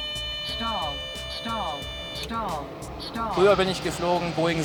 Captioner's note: cockpit warning "Stall! Stall!"